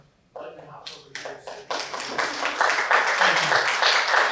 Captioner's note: applause